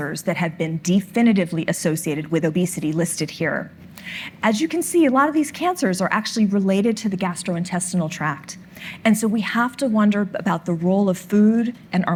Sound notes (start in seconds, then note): none